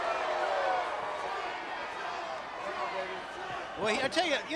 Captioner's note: crowd clamoring